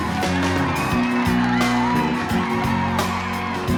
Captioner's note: clapping and cheering